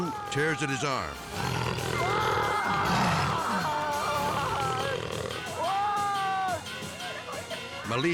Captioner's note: Zulu growling; screaming